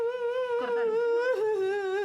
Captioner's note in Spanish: Daniela llora